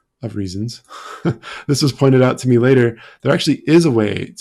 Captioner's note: chuckling